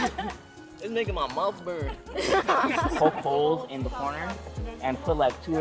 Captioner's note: students laugh